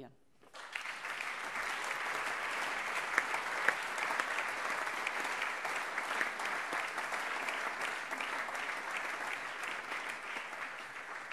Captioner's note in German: Allgemeiner Beifall